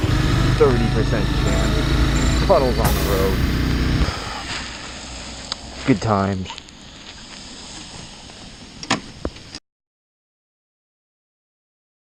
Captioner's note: sigh